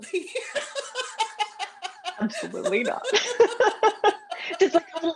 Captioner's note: laughter